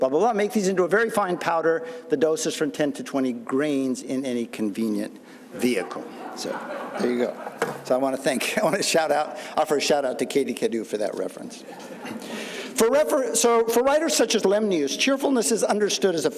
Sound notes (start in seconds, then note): 5.6 audience laughing